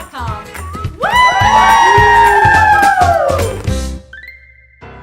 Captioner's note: group cheering